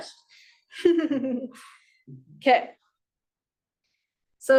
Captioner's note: chuckles